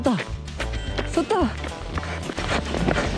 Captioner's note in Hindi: हांफना